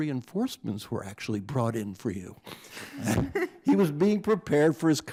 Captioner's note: chuckles